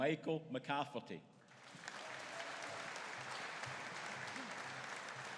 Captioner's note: audience applauding